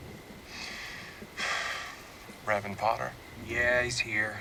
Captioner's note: sighs